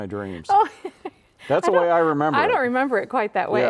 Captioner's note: laughing